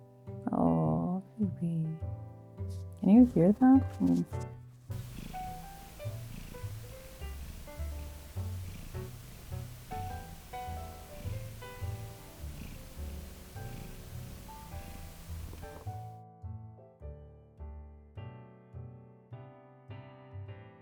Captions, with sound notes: Awww, baby. Can you hear that? [Very gentle purrs]